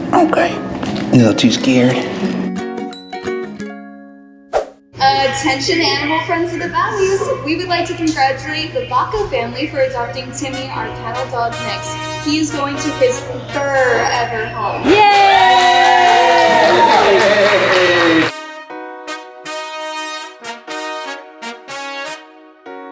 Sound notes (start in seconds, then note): 13.6 staff cheers; 18.8 upbeat music